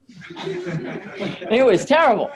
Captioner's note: audience laughs